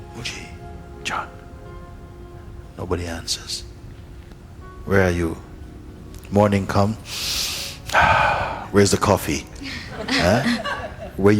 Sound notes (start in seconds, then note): 7.0 breathes in and out; 9.6 laughter